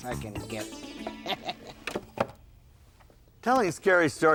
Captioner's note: Gabe laughing